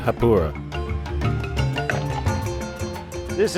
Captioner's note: pouring liquid